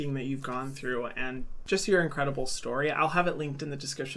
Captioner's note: none